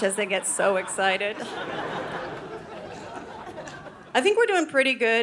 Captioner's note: audience laughing